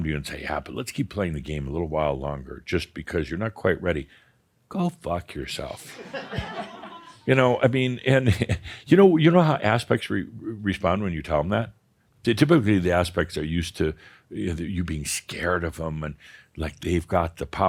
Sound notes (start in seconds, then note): 5.8 more chuckles